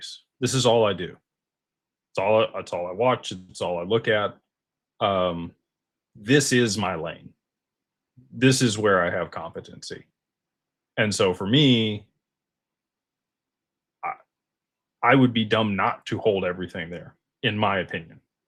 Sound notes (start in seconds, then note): none